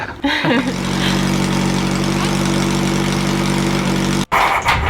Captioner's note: engine running